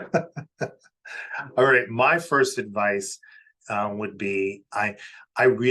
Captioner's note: laughs